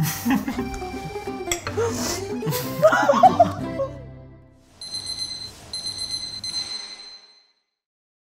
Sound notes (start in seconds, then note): 1.7 laughing; 2.0 french music; 4.8 alarm beeping